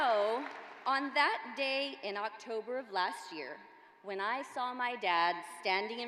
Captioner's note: applause